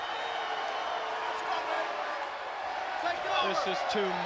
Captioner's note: crowd cheering